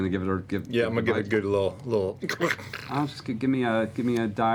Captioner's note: snarls